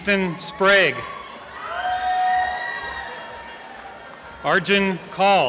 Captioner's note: applause and cheering